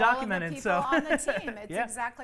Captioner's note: laughs